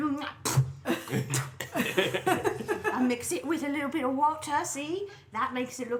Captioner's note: chews then spits